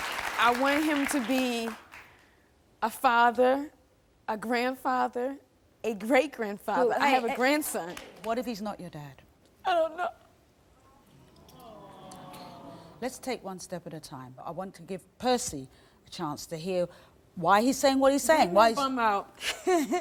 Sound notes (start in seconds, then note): 11.3 audience sighing